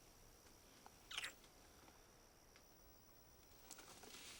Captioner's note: lips smacking